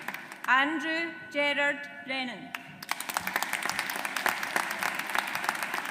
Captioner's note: audience applauds